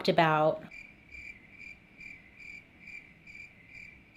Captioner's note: crickets chirping